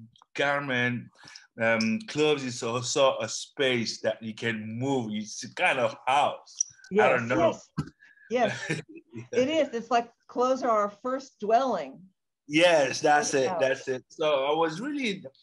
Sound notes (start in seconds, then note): 8.4 laughs